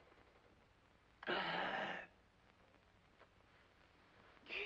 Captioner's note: gasps; makes exasperated sounds